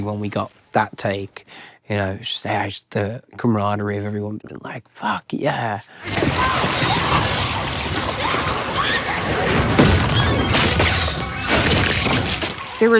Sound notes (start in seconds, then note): 6.1 Max screaming; 10.7 tentacles slithering